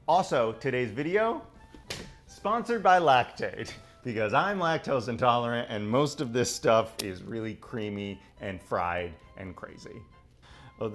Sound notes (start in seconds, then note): none